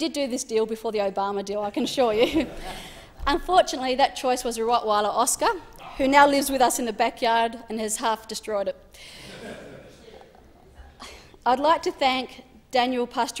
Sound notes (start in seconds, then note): 1.8 laughs; 9.2 laughter